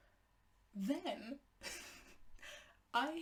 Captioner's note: laughs in disbelief